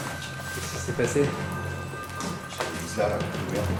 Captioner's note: speaks French